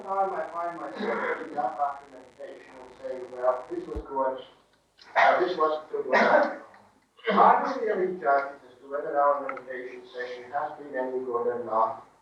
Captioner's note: coughing